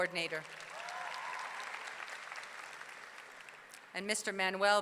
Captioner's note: audience clapping; audience cheering